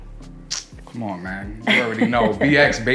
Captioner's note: laughs